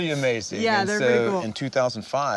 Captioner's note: laughs